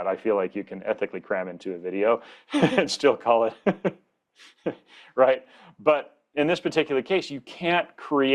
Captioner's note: chuckles